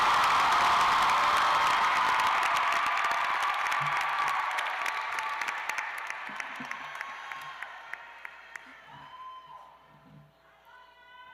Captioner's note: cheers and applause